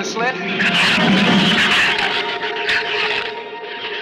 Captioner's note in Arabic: صراخ الزبابة